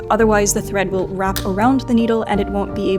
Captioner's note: machine clicks